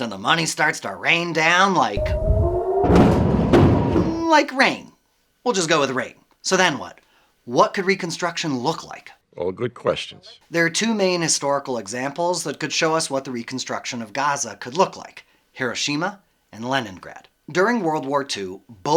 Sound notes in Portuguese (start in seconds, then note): 2.0 sirenes soando; 2.0 explosões